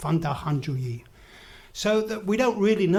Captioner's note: speaks in foreign language